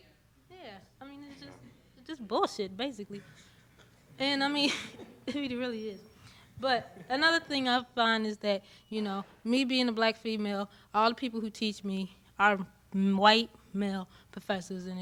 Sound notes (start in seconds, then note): 3.1 students chuckling